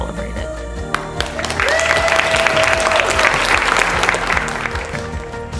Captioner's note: applause